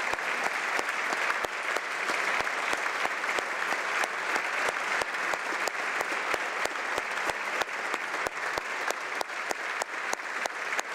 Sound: applause

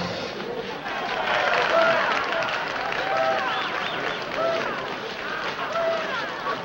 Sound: crowd cheering; crowd applauding

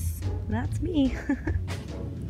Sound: nervous laughter

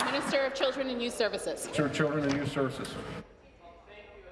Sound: applause

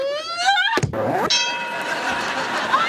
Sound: groaning; dinging

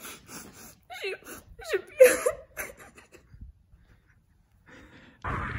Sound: crying sound

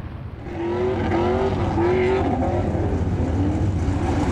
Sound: engine revving

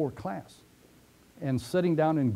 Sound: pause

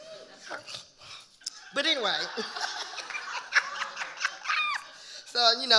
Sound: audience laughing; laughing

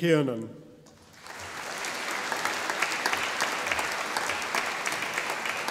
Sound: audience applauding

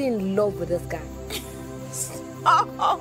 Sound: Tife giggling

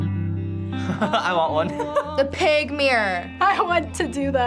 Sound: chuckles

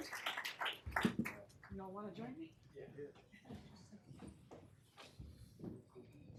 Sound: applause

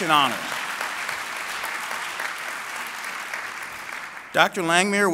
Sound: applause

